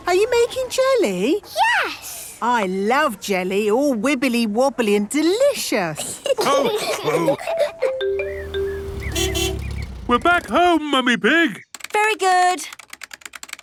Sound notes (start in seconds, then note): 5.9 laughs; 8.1 horn honking